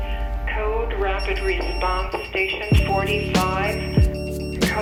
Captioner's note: radio Chatter